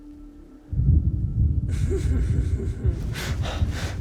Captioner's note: laughing